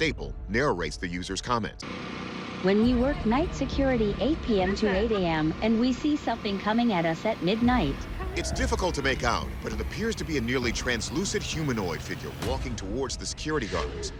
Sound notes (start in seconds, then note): 2.4 robotic voice reading